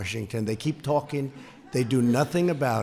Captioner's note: laughter